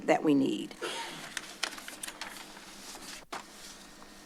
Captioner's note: paper shuffling